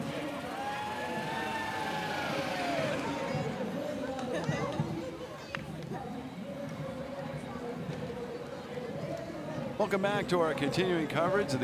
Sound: cheering and Applause

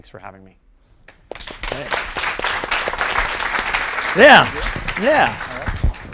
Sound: applause

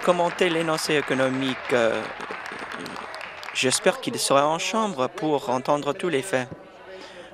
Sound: applause

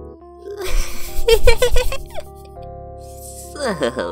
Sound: giggles

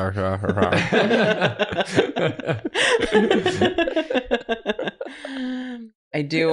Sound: laughter

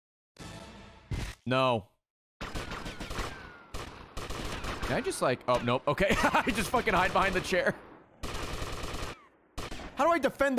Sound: laughs

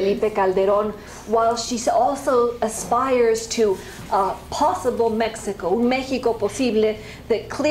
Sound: spanish

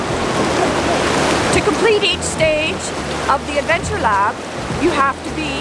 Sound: churning water

